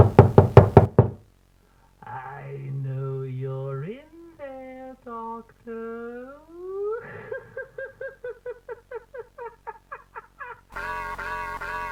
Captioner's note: laughter